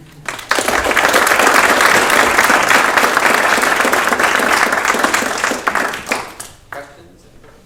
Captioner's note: applause